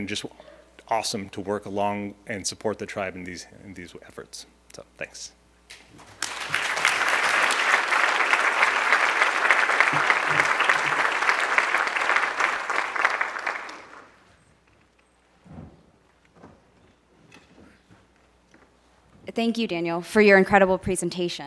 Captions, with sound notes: to work along and support the tribe in these efforts. So thanks. (audience applauding) (audience applauding) >>Thank you Daniel, for your incredible presentation.